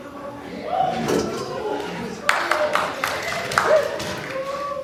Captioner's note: audience gasps, applauds